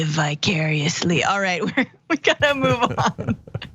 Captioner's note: laugh